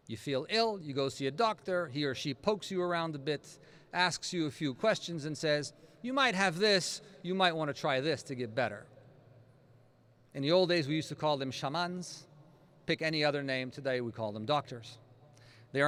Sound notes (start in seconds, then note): none